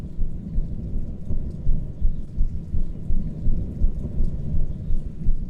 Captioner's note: thunder